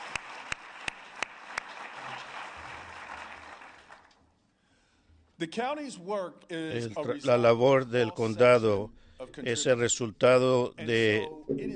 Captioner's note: applause